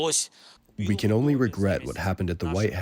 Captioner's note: through translator